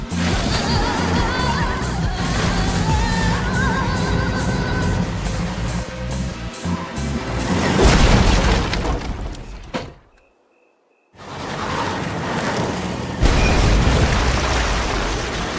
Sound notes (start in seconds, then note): 0.1 warbling scream; 7.5 smash; 13.3 crash